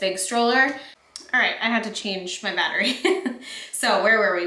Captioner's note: chuckles